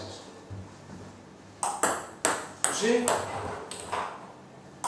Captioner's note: ball ping pong hitting